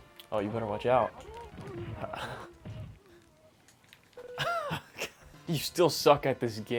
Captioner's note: chuckles; groans